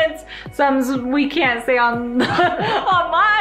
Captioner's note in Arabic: يضحك